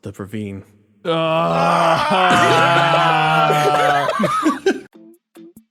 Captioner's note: cries of Despair